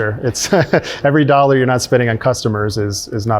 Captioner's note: laughs